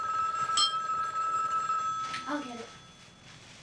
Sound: phone rings

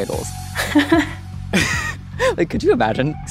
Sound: both laughing

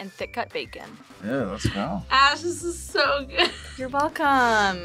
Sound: laughs

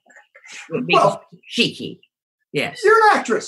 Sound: murmurs

